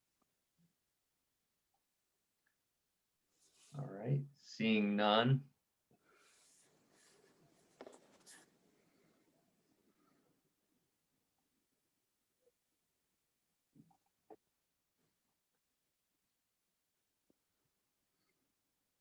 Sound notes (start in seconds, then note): 10.5 more silence